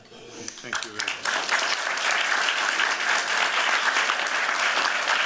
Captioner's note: applause